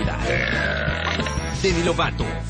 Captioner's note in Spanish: eructa